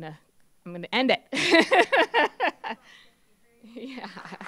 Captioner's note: laughs; applause